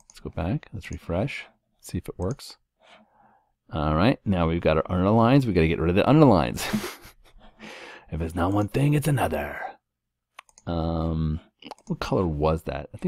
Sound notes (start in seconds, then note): 6.6 laugh